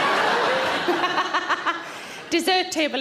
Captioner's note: audience laughs; Sarah laughs